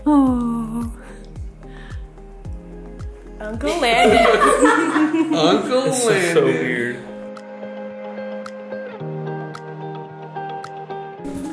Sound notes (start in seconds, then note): 3.9 everyone laughs; 7.2 gentle music